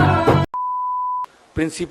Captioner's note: beep